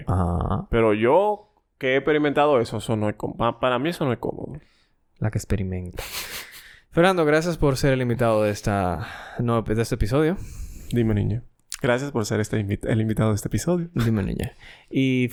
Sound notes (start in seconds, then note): 6.0 laughs